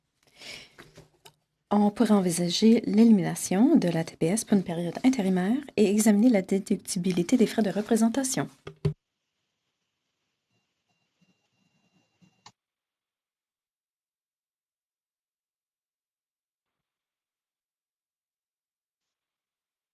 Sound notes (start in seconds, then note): 6.9 speaking French